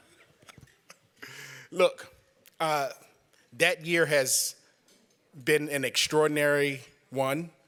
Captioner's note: laughter